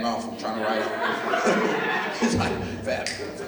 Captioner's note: laughter